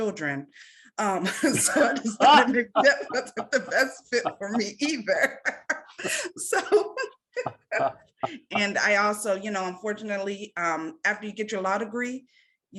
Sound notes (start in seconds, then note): 1.3 laughing